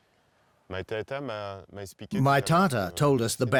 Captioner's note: speaking French